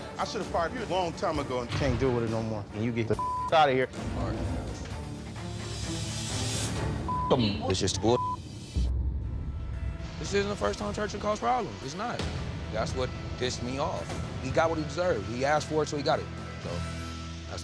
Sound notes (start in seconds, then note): 3.2 beep; 3.8 pensive music; 7.0 beep; 9.6 beep